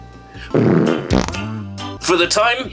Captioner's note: farting